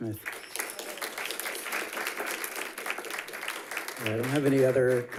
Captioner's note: audience applauds